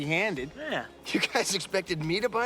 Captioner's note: chuckles